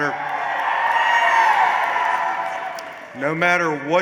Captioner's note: cheers